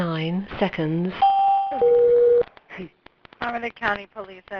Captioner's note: computer dings